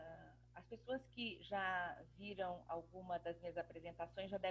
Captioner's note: speaking portuguese